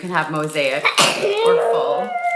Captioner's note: sneezing